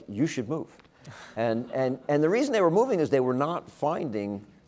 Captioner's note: laugh